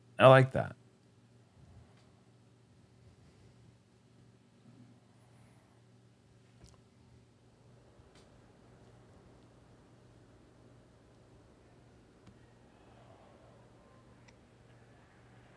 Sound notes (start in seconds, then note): 2.2 pause